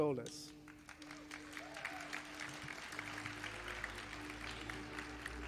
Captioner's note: audience applauding